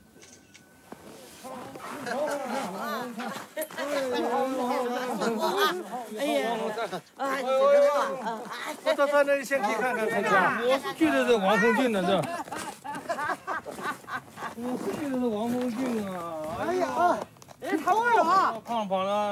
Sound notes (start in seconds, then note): 0.1 camera shutters; 2.4 woman laughs; 4.8 people chattering; 8.8 speaks in Chinese language; 11.0 people chattering; 15.0 man speaks in Chinese language